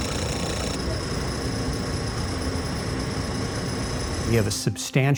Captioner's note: gauges rattling; alarm chirping